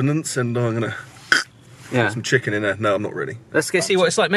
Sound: scoffs

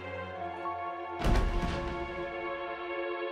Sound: thuds

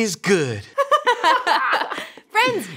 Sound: laughing

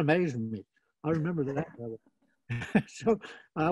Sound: laughing

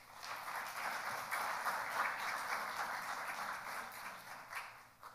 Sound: audience applauding

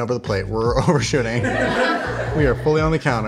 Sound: laughing

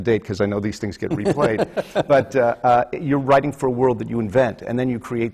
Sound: laughs

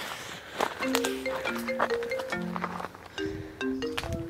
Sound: phone rings

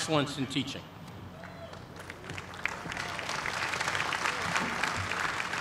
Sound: applause

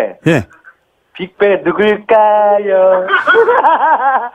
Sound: laughs

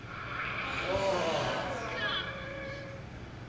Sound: groaning from the audience

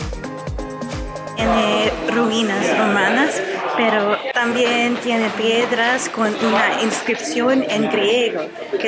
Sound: Spanish

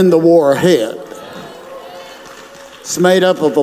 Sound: audience claps

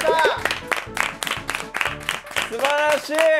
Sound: A round of applause

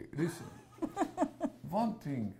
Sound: laughs

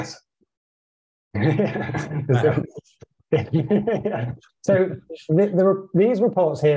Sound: chuckles

